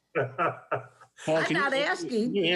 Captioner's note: laughs